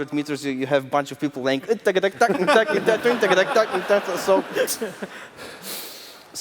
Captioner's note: imitates upbeat string music